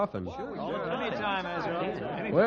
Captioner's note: crowd chattering